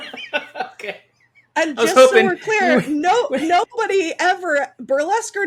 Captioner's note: laughing